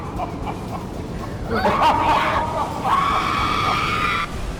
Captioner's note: driver chuckling maniacally; Tina screams